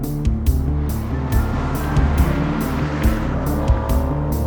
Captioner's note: engine revving